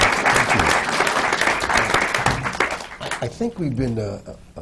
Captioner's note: applause